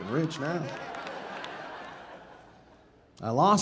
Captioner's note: audience laughing